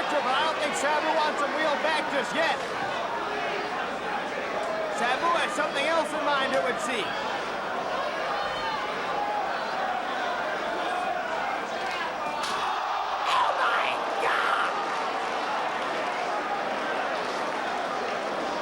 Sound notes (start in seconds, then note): 12.0 spectators exclaiming